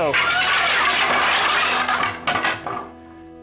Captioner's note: wood clanking